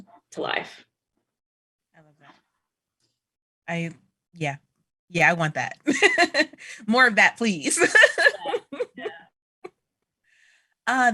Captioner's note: laughter